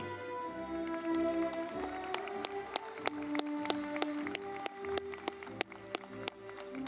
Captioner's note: audience clapping